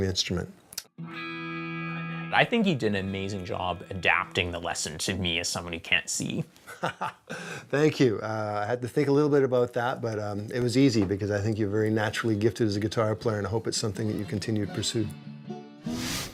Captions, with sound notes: the instrument. - I think you did an amazing job adapting the lesson to me as someone who can't see. (laughing) - Thank you. I had to think a little bit about that, but it was easy because I think you're very naturally gifted as a guitar player and I hope it's something that you continue to pursue.